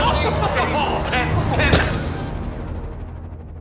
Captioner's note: skull crack